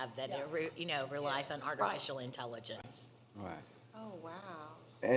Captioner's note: others agreeing